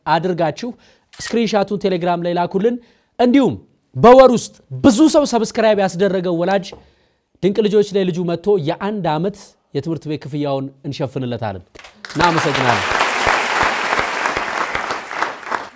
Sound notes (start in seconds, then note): 11.7 applause